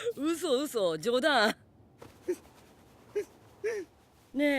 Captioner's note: breathes quaveringly